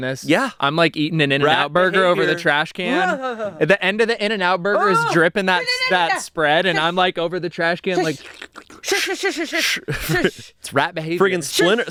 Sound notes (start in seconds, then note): 2.8 groans; 7.9 slurps; 8.0 shushes